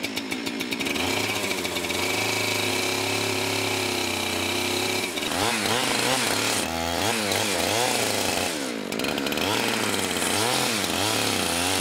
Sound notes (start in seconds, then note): 5.9 engine revs up